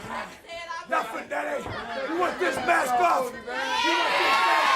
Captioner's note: crowd cheering